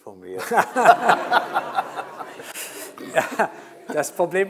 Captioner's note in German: Alle lachen